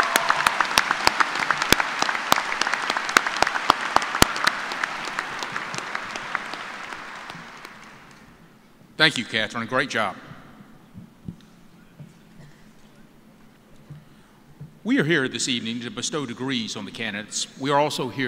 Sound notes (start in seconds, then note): 5.3 cheers and applause